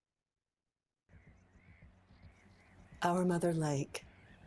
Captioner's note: birds squawking